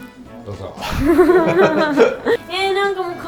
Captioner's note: giggling